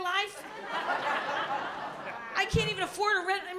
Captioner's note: laughter